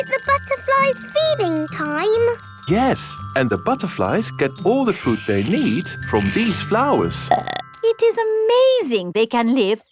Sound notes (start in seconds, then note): 7.2 burps